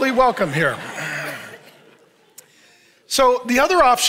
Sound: congregation laughs

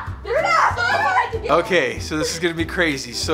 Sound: family cheers

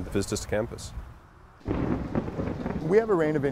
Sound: roll of thunder

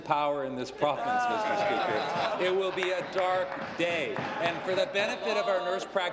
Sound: laughter

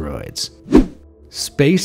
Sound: air whooshing

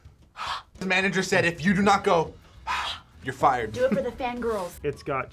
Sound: both exhale; exhales

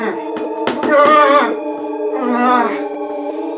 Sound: painful groans

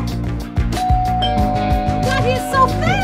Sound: doorbell rings

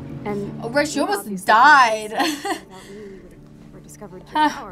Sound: laughs

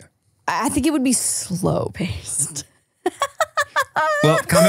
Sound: laughing

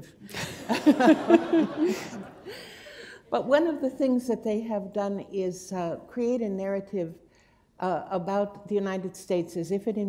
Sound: laughter

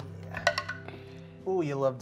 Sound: dice rolling

